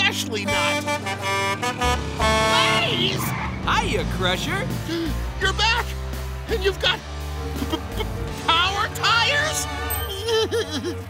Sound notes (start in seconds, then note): 0.3 honking; 4.8 gasping; 9.9 whimpering